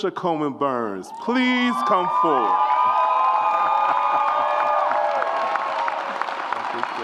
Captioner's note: audience applauds and cheers